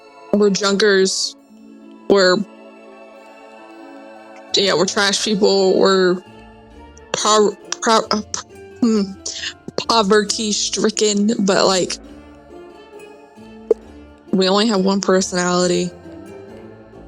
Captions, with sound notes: We're junkers. We're... Ya know, we're trash people. We're... [gracefully stumbles over words] poverty stricken, but like... we only have one personality.